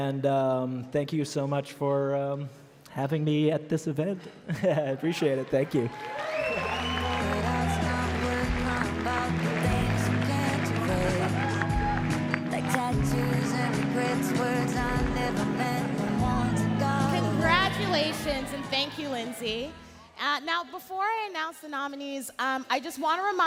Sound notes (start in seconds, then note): 11.2 cheering and Applause